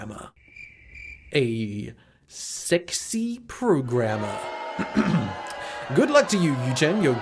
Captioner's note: crickets; cough